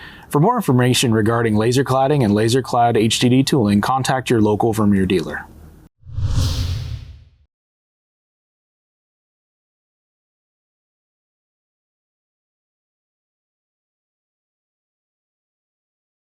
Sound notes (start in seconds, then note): 6.0 air swooshing